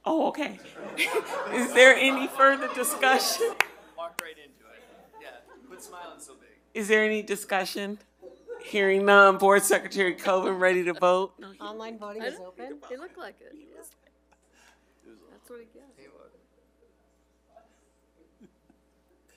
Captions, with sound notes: Oh, okay. (audience laughing) Is there any further discussion? - Walked right into it, yes. - Is there any discussion? Hearing none, Board Secretary Covin, ready to vote. - Online voting is open. - It looked like it.